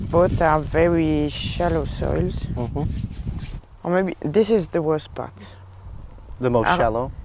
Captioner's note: stepping through soil